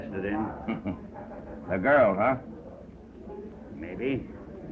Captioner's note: chuckles